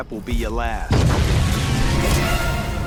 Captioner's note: boom